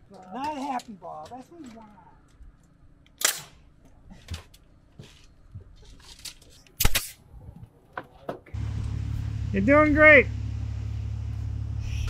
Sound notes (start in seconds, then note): 3.2 electric stapler shooting